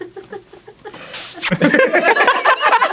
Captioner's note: kisses